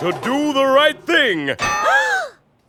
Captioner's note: gasps